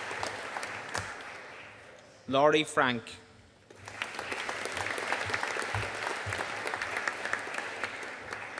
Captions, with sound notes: Laurie Frank. (AUDIENCE APPLAUDING)